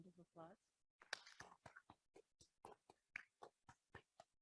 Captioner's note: audience claps